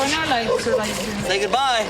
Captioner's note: speaking In Foreign Language